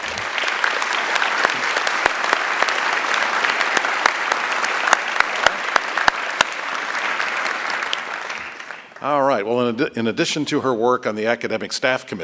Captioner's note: applause